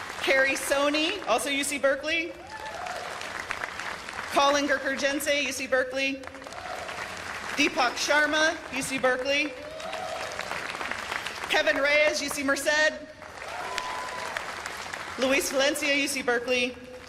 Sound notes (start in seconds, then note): 0.0 cheers and applause; 2.4 cheers and applause; 6.3 cheers and applause; 9.4 cheers and applause; 13.2 cheers and applause